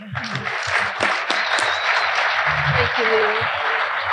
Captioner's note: audience applauding